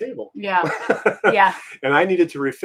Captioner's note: laughing